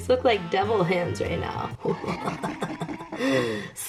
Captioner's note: demonic laugh